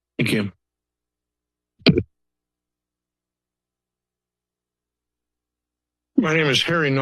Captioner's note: silence